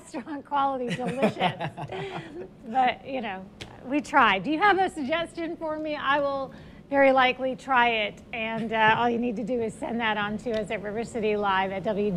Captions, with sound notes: NOT AS GREAT AS THE DISH WASHER SHRIMP OR WHATEVER [LAUGHS] THE SHRIMP IN THE DISH WASHER WAS -- DEFINITELY QUALITY. BUT, YOU KNOW, WE TRIED. DO YOU HAVE A SUGGESTION FOR ME? I WOULD VERY LIKELY TRY IT.